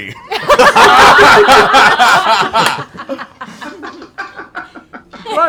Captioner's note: laughing